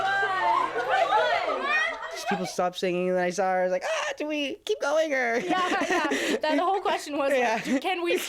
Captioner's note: screaming